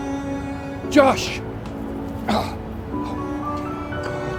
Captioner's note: gentle music; grunts